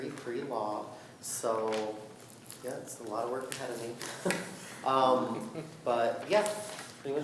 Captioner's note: chuckles